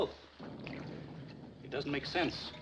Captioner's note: thunder